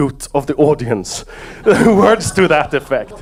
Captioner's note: audience laugh